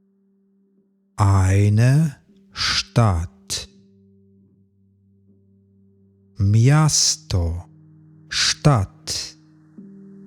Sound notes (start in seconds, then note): 2.7 german; 9.0 german